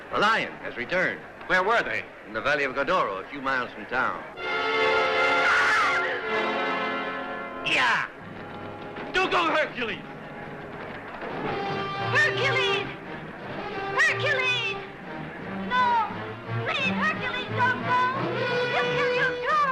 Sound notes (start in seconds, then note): 4.4 intense orchestral music; 5.1 Iole shrieking